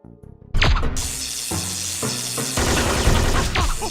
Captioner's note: electric discharge sound; electric discharge and groan of pain